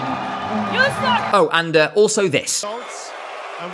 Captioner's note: loud booing